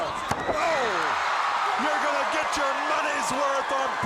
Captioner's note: crowd cheering